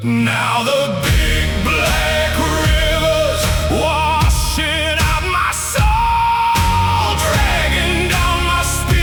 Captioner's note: screaming